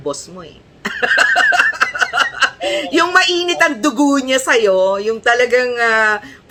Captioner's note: laughter